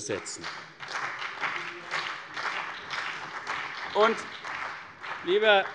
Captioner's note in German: Beifall CDU und BÜNDNIS 90/DIE GRÜNEN